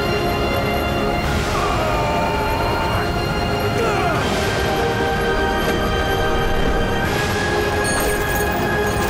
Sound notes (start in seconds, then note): 1.4 groaning